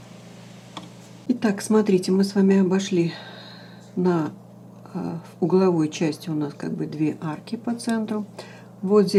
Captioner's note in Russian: вздыхает